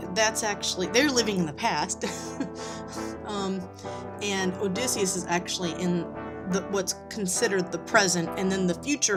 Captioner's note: laughs